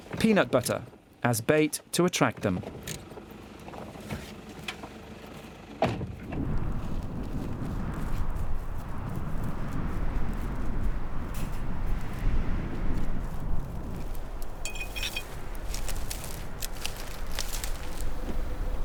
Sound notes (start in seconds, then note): 5.5 door slams; 14.6 metal clinks